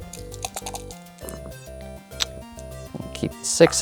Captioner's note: dice rattling; dice rolling